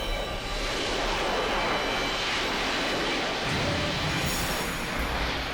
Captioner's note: jet whooshing